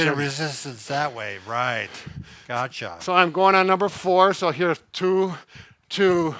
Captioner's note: none